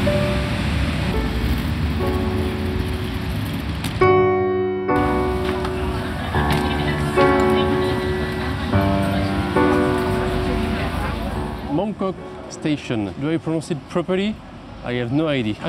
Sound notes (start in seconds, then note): 5.8 people talking